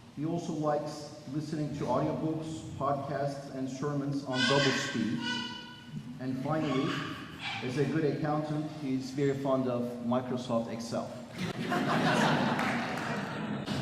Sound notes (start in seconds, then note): 11.3 laughter